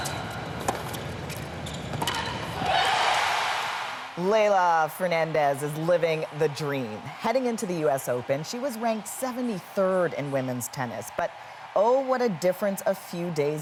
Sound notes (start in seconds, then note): 8.9 cheers and Applause